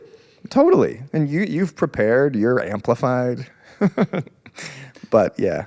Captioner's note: laughs